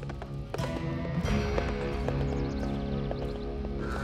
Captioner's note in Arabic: حصان يقترب